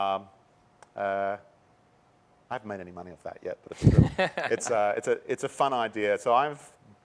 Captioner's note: laughter